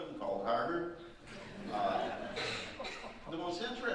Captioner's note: audience laughing